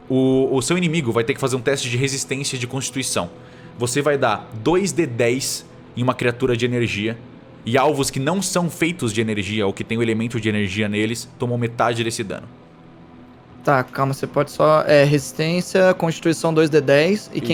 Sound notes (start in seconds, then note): none